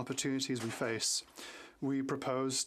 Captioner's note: speaking french